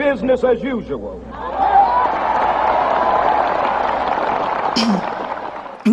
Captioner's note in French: Applaudissements